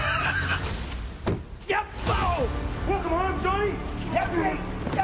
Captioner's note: laughs